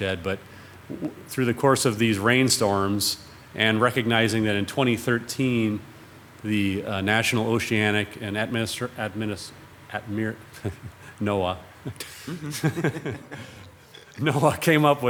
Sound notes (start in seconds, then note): 10.5 chuckles; 11.8 everyone chuckles